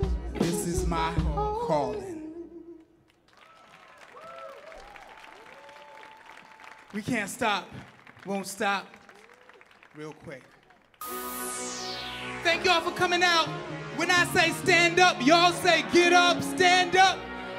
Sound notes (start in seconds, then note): 3.0 audience clapping and cheering; 11.0 electronic music starts